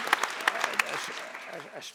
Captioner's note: audience applauding